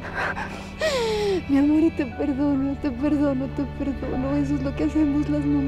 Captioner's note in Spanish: Sollozos